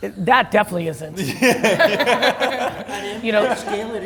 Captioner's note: laughs